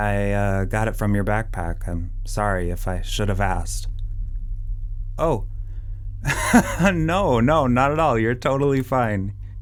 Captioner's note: laughs